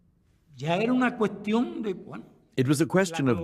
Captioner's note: speaking spanish